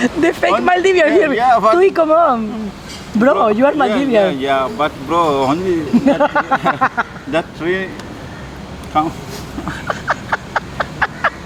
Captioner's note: laughs